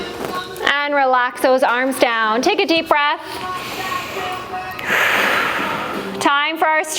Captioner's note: breath